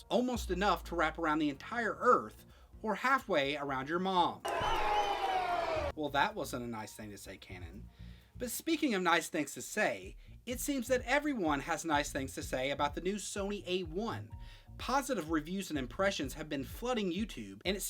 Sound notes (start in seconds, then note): 4.6 yelling